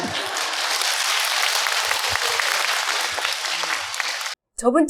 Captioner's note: audience Applause/Laughter